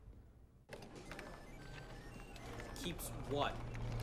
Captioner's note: computers beeping